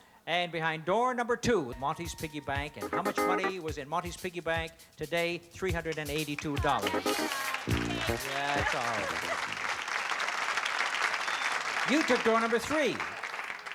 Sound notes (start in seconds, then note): 9.8 applause